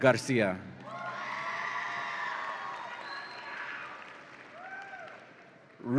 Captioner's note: audience applauds and cheers